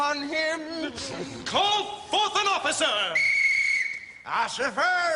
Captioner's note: blows a whistle